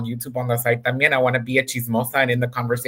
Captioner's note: speaks in Spanish